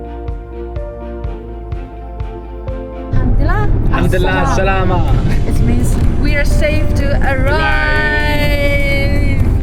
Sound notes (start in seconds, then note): 3.2 Arabic